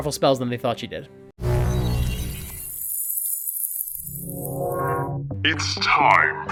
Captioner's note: time portal opens